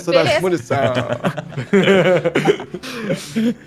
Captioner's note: everyone laughs